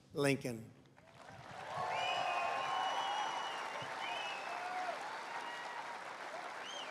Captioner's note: applause